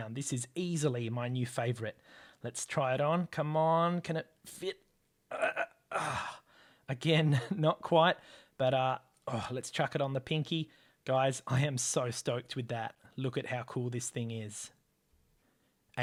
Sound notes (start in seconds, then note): 5.3 grunt